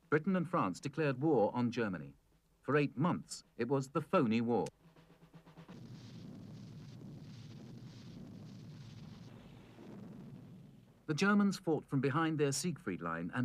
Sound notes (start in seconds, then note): 5.7 tanks firing